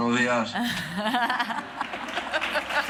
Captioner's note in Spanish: Risas